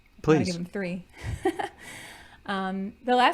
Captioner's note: chuckling